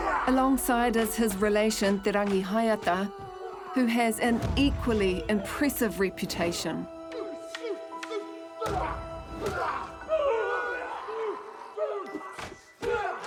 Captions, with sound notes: - Alongside is his relation Te Rangihaeata, who has an equally impressive reputation. - (ALL GRUNT, GROAN)